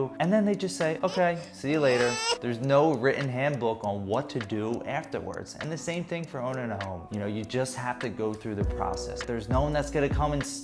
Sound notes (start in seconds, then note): 0.9 baby crying